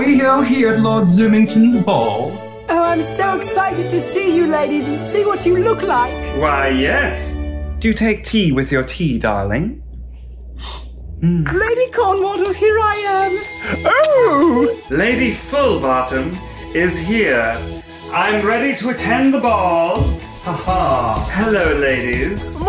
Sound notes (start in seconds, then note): 10.3 slurping